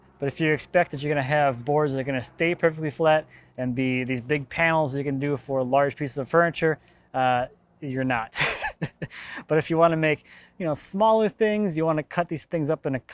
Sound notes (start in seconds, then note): 8.3 laughs